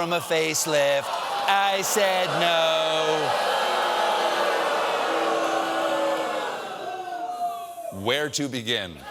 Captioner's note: audience reacts